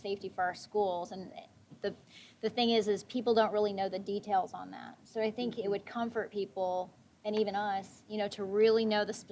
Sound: none

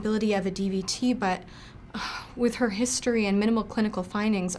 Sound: sigh

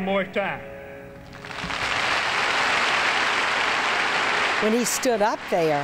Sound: audience applauding

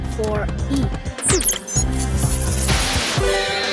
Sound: beeping; screeching

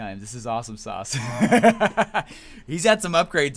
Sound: laughs

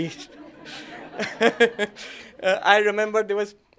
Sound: laughter

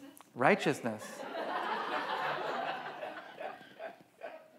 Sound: audience laughs

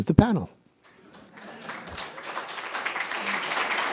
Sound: applause

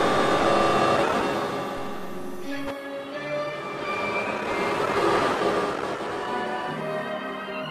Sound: sounds of static and random TV shows

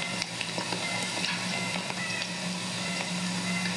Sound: bird call

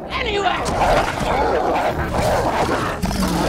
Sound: both growling

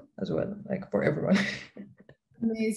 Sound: laughs

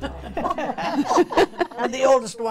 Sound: ladies giggling

